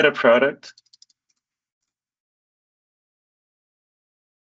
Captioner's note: mouse clicking